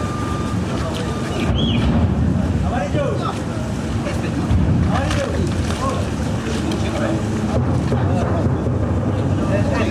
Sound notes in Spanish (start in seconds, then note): 0.9 silbido